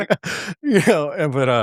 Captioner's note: laughter